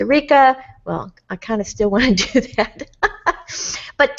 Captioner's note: laughs